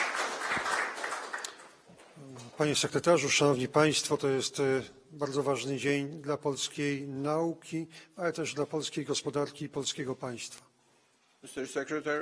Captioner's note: speaking polish